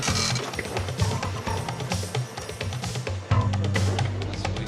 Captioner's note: machine whirring